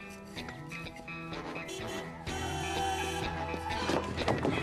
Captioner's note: honking